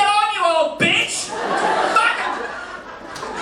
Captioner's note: yells; audience laughing